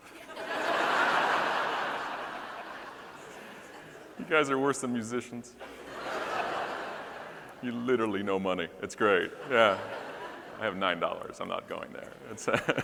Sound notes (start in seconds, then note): 0.1 all laughing; 5.6 audience laughing